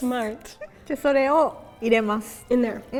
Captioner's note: speaking in Japanese